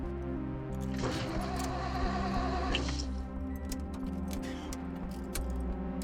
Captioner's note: engine sounds